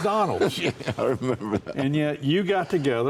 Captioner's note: chuckling